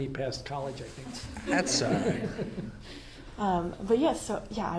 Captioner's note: audience laughs